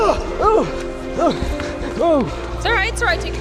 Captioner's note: grunting